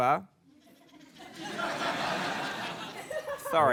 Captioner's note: laughter